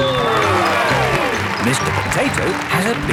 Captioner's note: cheering